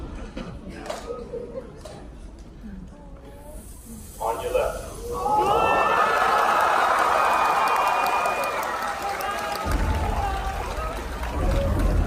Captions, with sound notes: On your left. (Audience cheering)